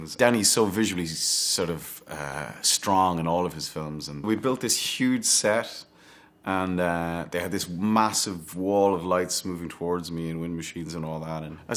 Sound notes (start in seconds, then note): none